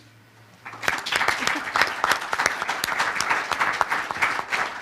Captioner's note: audience applause